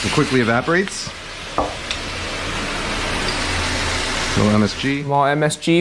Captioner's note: food sizzling